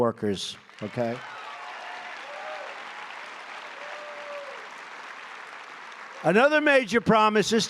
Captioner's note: applause